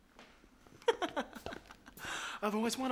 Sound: laughs

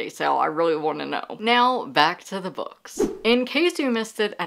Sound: whoosh sound effect

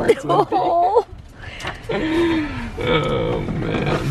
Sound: chuckling

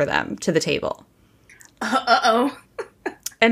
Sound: laughing

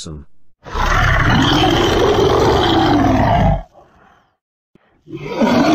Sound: monster Roaring

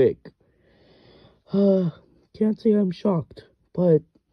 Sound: sigh

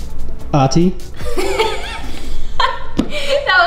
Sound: laughs

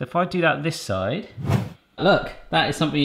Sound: whoosh

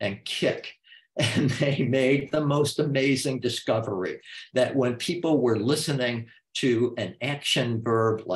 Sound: chuckle

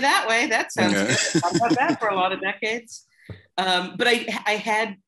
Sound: laughter

